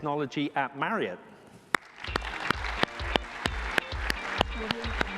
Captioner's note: applause